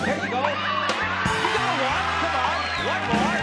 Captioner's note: cheering